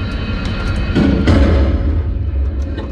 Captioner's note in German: Schuss fällt